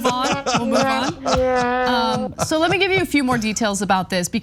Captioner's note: laugh